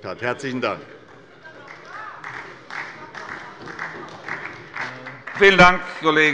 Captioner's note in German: Beifall bei der SPD